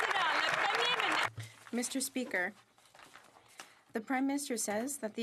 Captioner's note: some Applause